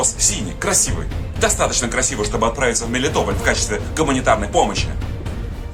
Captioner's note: Ukrainian